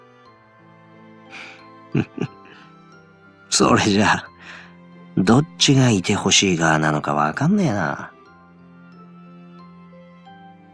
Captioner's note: chuckle